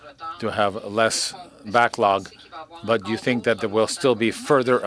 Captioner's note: speaking French